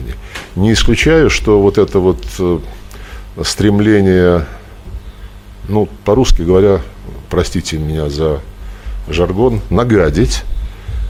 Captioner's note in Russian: по-русски говоря